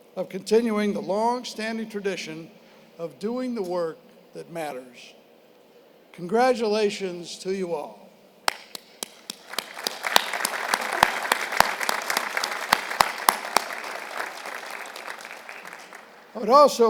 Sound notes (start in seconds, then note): 8.4 applause